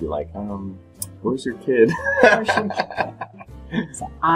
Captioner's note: laughs